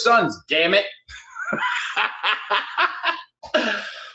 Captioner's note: laughs